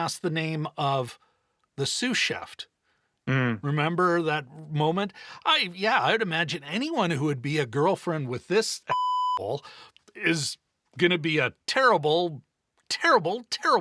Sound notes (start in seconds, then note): 8.9 beep